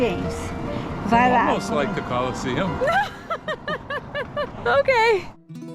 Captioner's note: laughs